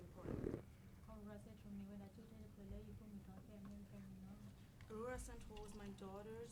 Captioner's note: speaking in foreign language